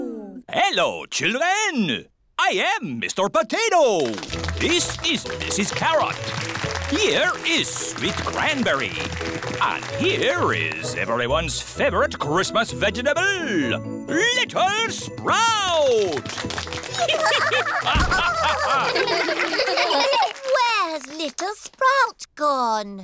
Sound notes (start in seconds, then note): 5.8 applause; 15.8 applause; 16.9 all giggling